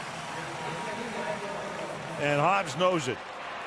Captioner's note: pa announcement